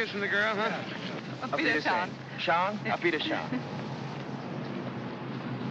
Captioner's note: bidding farewell in German; aircraft rumbling in distance